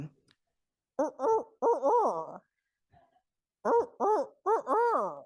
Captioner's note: imitating owl cooing